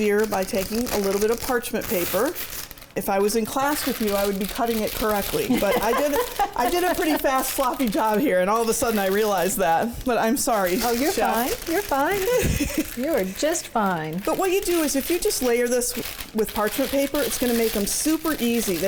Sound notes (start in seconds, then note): 5.4 laughs; 12.2 chuckles